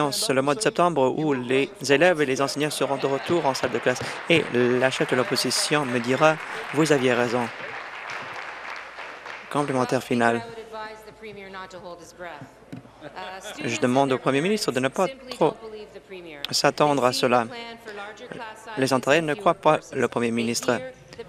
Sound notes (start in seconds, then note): 6.6 applause